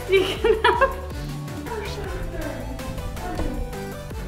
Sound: all mumbling

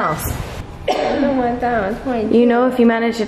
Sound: coughs

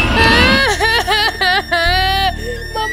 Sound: crying

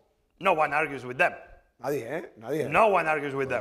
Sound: speaking spanish

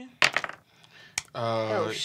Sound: dice clack

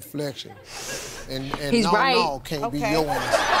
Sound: laughs

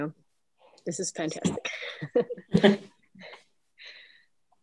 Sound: chuckles

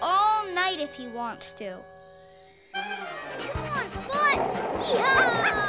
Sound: barking

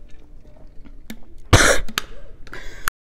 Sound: choking

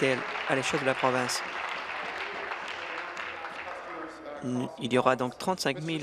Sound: applause

